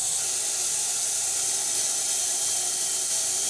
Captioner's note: saw whirring